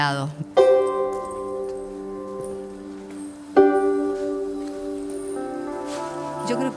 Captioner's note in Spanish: sonido de pasos